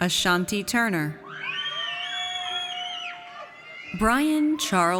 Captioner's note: audience cheers